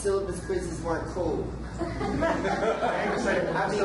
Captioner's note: audience laughter